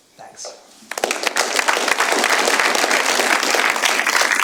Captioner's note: applause